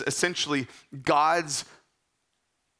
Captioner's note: speaking in Greek